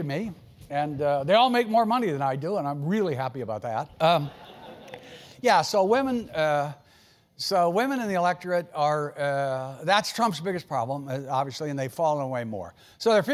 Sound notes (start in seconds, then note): 4.6 laugh